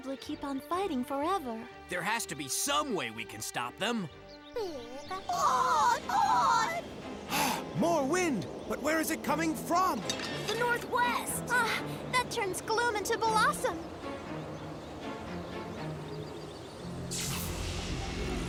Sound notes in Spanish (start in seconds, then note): 4.1 preocupado